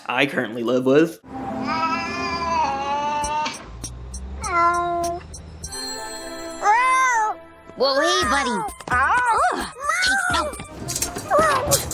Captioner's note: cat noises